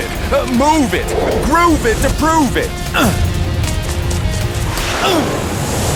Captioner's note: grunts; grunting